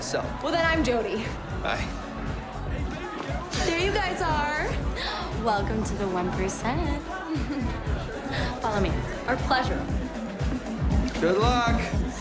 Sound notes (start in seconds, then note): 7.0 giggles